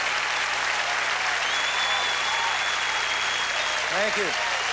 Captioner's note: whistles